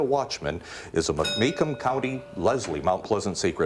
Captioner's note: bell rings